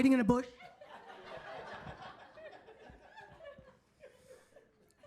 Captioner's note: audience laughing